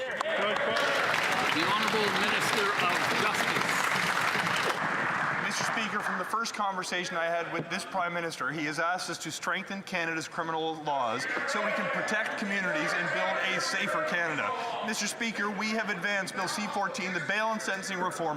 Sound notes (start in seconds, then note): 4.4 some Applause